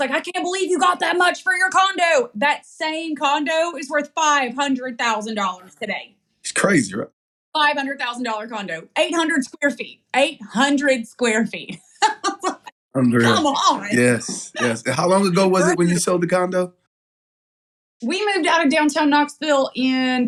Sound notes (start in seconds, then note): 11.8 laugh